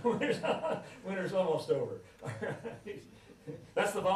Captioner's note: laughs